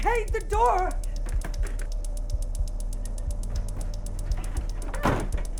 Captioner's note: door handle rattling; door slams shut